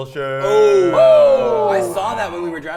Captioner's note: players exclaiming